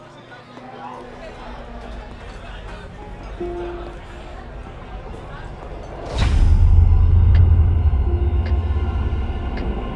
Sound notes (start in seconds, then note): 0.0 sound of restaurant patrons; 5.0 sudden transition sound; 7.7 sound of clock ticking